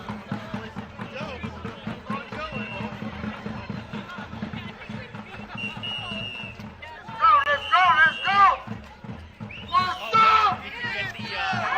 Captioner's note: chanting